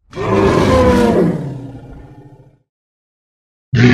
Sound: dino roars

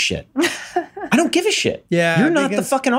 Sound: laughs

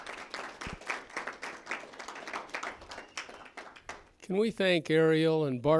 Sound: applause

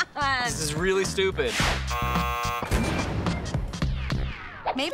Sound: buzzer

